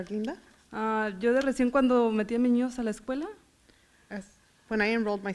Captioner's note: foreign language